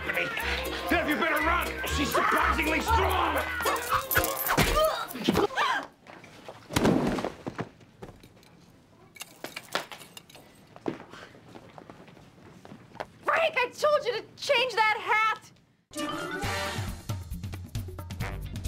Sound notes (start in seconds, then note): 4.1 gasps; 4.1 grunts